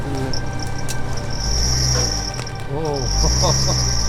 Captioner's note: car engine revving